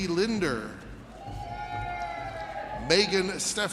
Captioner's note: audience cheers